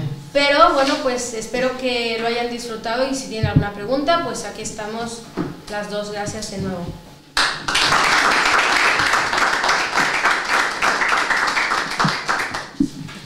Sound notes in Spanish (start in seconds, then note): 7.3 aplausos